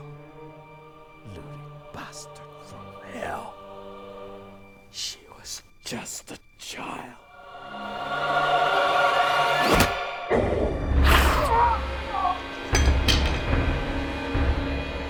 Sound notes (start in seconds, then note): 10.9 growling; 12.2 Jonathan thudding to floor; 12.7 ax clattering; 14.8 intense suspenseful music